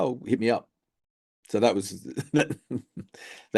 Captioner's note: chuckles